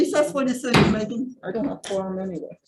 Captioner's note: gavel bangs